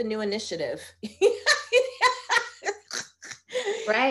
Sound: laughing

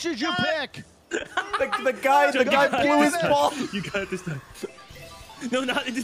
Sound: laughs

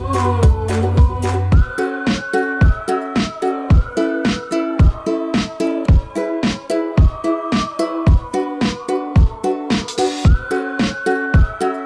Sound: whistling

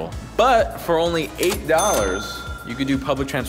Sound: cash register rings

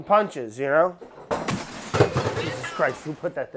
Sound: banging and crashing

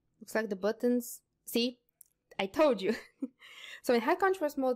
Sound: laughs

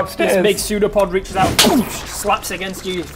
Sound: boosh

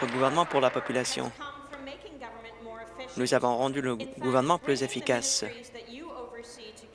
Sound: applause

